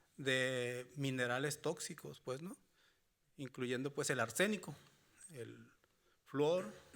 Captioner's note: speaking Spanish continues